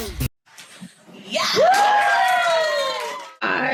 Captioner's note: cheering